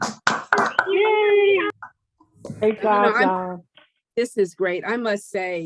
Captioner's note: people cheering